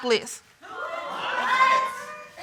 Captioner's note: audience exclaims